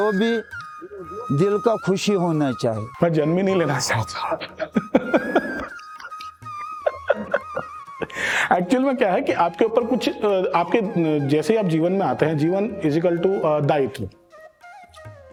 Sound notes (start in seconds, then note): 4.3 laugh